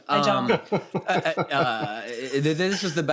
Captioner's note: laughs